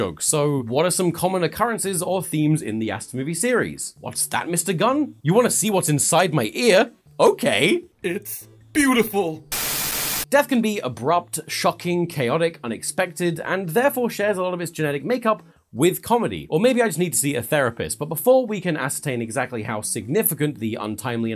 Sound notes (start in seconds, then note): none